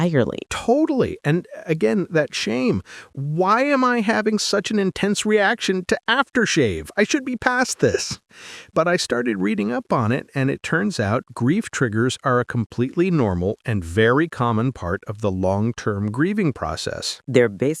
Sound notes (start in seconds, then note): 7.0 laughs